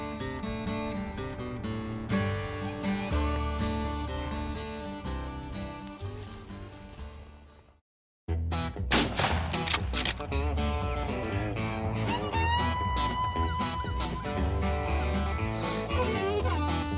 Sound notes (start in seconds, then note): 7.9 fast paced country music; 8.9 gunshot echos; 10.2 fast paced country music